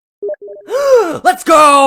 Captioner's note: gasp